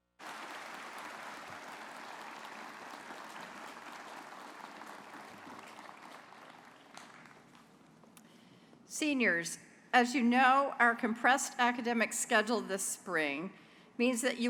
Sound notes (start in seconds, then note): 0.0 applause